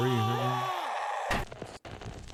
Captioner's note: screaming